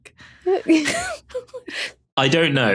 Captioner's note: both giggling